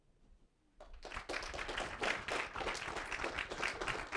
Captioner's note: applause